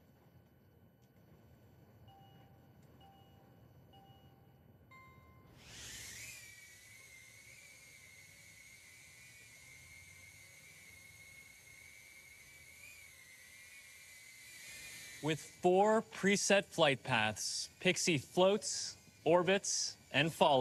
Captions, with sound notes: (Pixy dinging) (Pixy whirring) With four preset flight paths, Pixy floats, orbits, and follows wherever you lead.